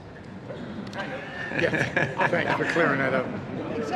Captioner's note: laughing